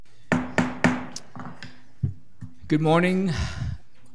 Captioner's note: gavel banging